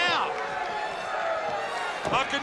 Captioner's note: spectators cheering